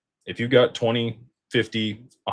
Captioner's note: none